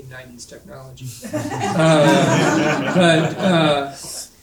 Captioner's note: audience laughing